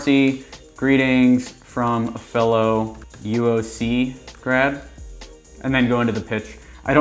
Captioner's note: keyboard typing